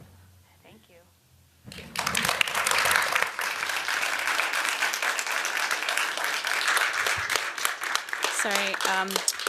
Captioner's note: applause